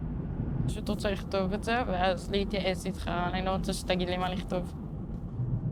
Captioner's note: speaking foreign language